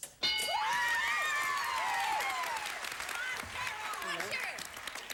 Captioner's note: audience applauding